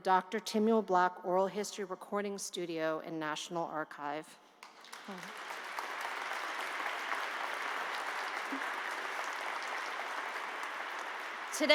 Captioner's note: applause